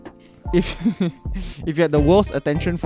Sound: small giggles

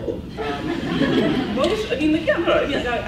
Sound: laughs

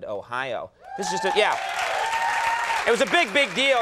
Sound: crowd cheering

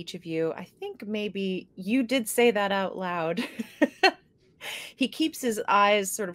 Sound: laughing

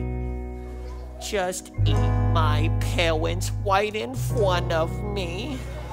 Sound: in a baby voice

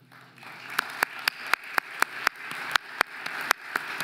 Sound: audience applauding

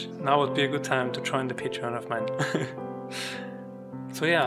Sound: giggles

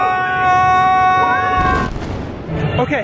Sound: screaming; explosion

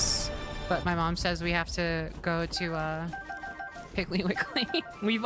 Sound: laughing

